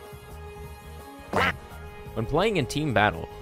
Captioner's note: quack